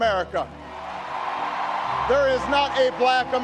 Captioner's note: audience cheering